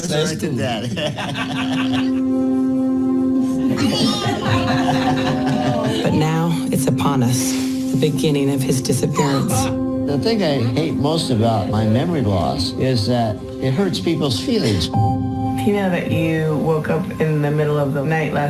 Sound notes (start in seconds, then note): 0.6 laughing